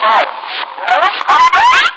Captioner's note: trills